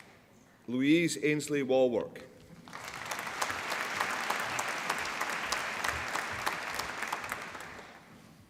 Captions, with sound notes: Louise Ainslie Wallwork (APPLAUSE)